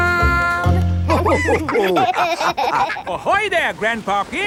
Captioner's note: all laughing